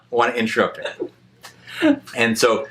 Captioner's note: laughs